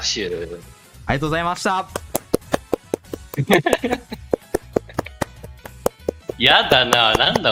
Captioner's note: applause